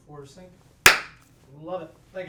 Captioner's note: hands clapping